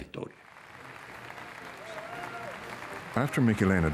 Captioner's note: applause